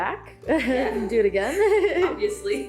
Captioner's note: laughs